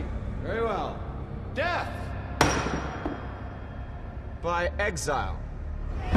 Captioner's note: gavel thuds